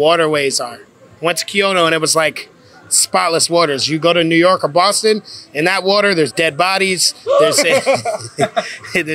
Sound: gasp

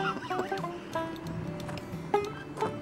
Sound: guffawing

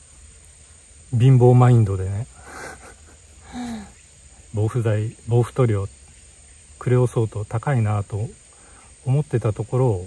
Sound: laughs

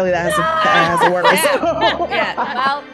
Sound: laugh

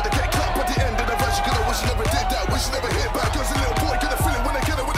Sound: cheering continues

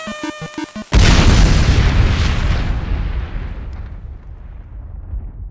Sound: video game music plays; explosion

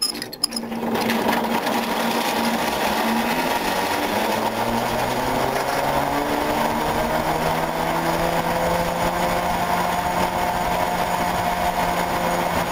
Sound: noise of cablecar going along cable

